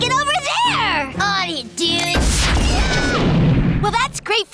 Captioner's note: screaming